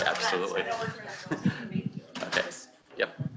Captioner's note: chuckles